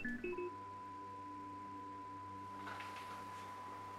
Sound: tonal buzzing persists

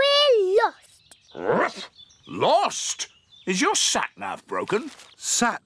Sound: barks

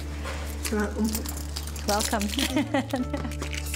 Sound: laughter; ethereal music

